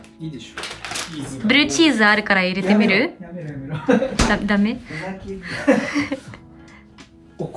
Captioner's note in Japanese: 笑い